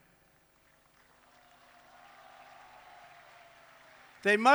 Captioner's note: applause